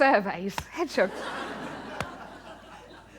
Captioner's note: laughter